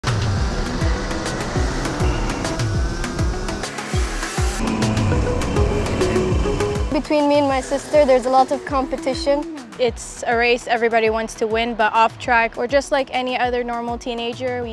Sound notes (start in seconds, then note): 0.7 jubilant music; 4.5 cars rev loudly